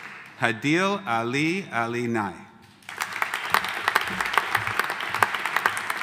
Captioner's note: audience applauding